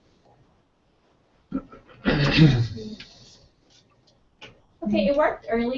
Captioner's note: cough